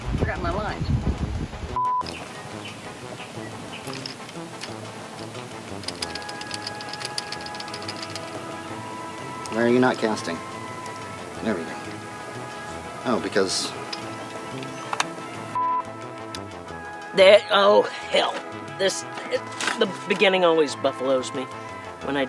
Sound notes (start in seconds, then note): 1.8 beep; 3.2 dramatic music; 15.6 beep